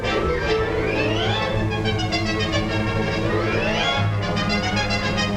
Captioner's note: none